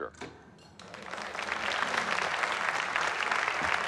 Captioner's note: cheers, applause